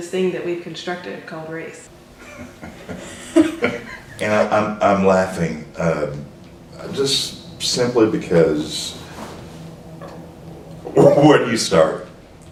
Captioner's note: laughter